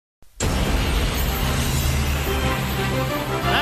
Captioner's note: plane engine roaring